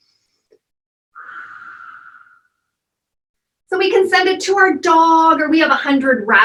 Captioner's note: deep breathing and exhaling